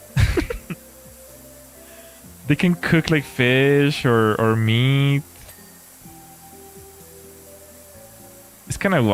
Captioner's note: laughter